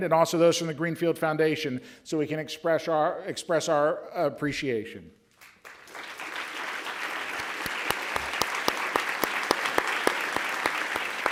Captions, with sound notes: to stand and also those from the Greenfield Foundation, so we can express our appreciation. (audience applauds)